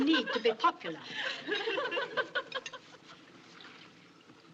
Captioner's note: nuns Giggling